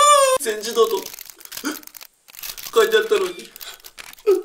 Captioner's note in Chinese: 嗚 ~